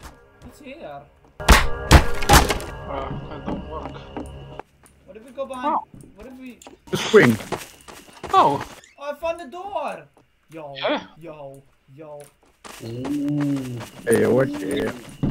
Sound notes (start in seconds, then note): 1.8 crowbar hitting wood; 11.6 footsteps